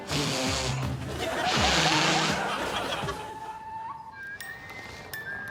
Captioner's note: continuing to blow